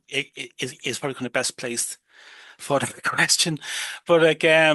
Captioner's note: laughs